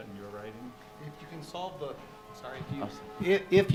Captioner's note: sirens wail